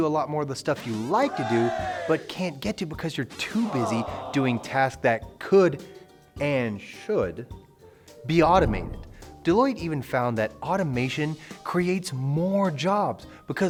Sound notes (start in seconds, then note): 0.9 men cheer; 3.5 men boo